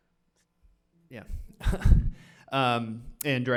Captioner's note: chuckles